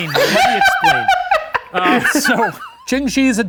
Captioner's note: laughing